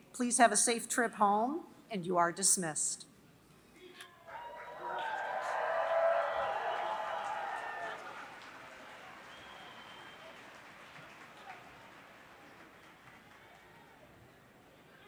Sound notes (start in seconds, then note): 4.3 applause